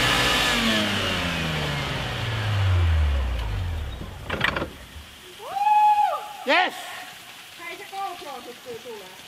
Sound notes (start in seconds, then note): 0.0 engine slows, stops; 7.8 speaking Finnish